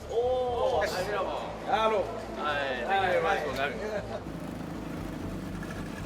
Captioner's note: indistinct chatter